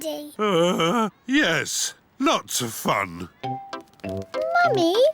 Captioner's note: groans